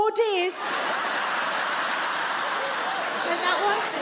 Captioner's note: audience laughing